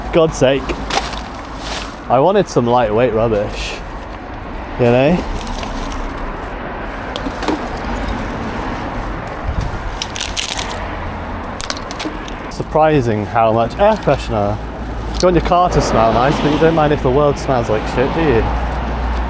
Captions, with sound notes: For God's sake. I wanted some lightweight rubbish. You know? [crunching] Surprising how much air pressure. It's going to your car to smell nice, but you don't mind if the world smells like shit, do you?